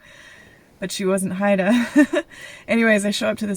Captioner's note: nervous laugh